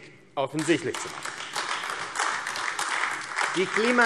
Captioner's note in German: Beifall AfD